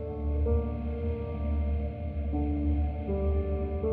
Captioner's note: none